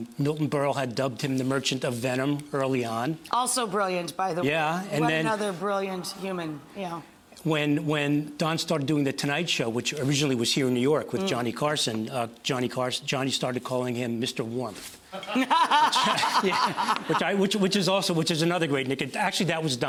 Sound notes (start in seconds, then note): 15.2 laughing